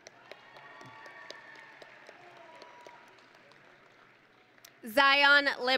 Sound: audience and graduates cheering

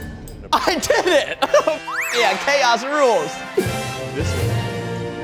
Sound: beep

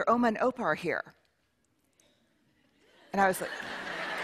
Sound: laughter

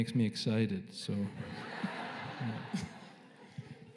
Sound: laughter

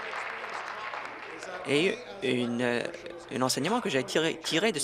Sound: applause

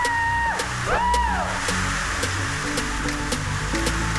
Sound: girls whooping

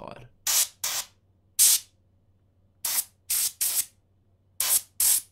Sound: compressed air nozzle puffing

